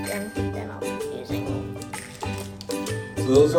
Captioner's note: the assistant speaks faintly